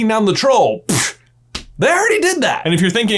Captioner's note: punching sound